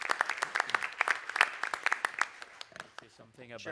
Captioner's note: applause